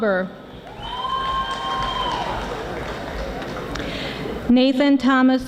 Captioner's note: audience applauding